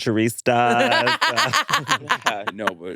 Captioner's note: laughs